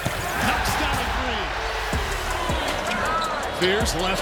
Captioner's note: crowd roars